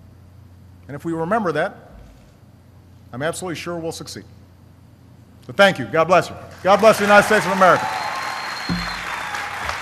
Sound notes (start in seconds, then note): 6.5 applause